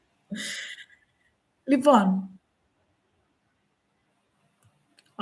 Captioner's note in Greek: γέλια